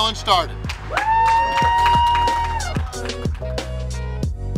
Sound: cheering & Clapping

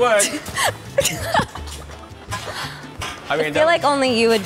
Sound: laughing

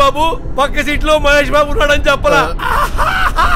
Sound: laughs

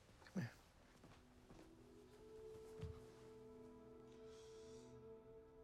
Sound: none

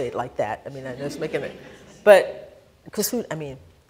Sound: laughter

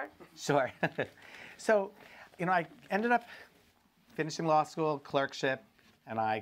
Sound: chuckles

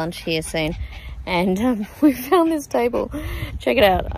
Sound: laughing

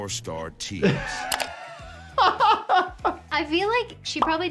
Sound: laughs

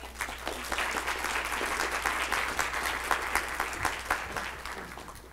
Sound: clapping

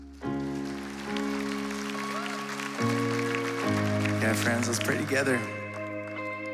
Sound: applause

